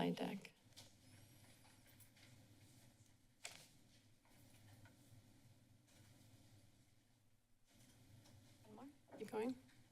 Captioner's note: silence